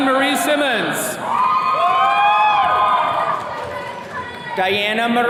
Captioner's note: attendees cheering